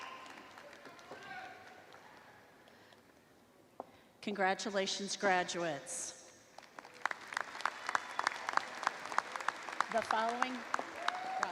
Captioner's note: applause